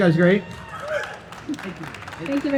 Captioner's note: audience cheering and applauding